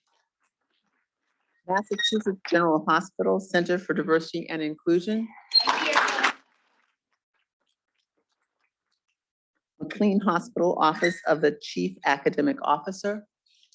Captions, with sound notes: Massachusetts General Hospital, Center for Diversity and Inclusion. (students clapping) McLean Hospital Office of the Chief Academic Officer,